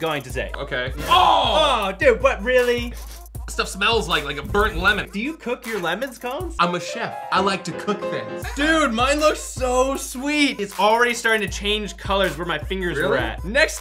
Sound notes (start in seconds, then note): 3.5 sniffs